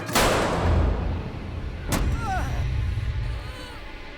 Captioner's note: gun firing